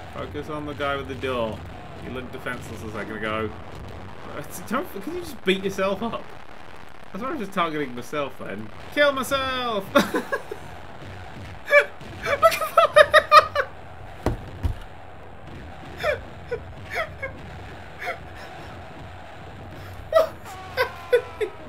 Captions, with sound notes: Focus on the guy with the door. He looked defenseless a second ago. Don't - Can you just beat yourself up? I was just targeting myself then. Kill myself! (laughing) Look, I'm - (failed attempts to speak while laughing) (squeaky laughing noises) (through laughter) What's happening?!